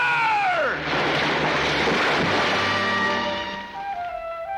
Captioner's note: body crashes; somber music